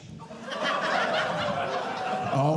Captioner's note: audience Laughing